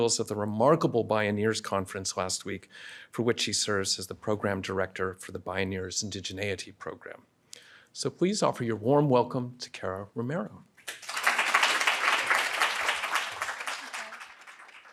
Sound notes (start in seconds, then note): 10.8 applauds